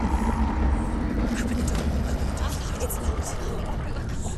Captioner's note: whispering